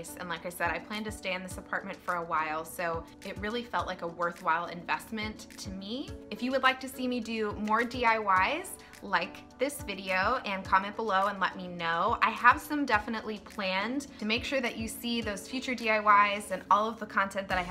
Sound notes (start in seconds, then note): none